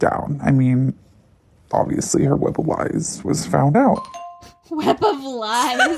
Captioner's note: bingbong